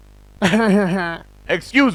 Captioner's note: laugh